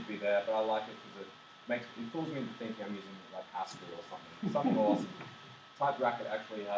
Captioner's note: some laughs